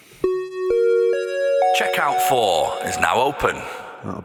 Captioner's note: chime